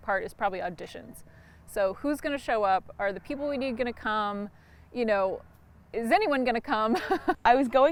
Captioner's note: laughs